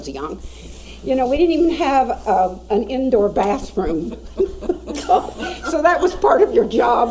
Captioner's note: laughing